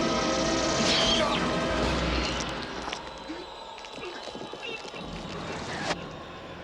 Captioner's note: groaning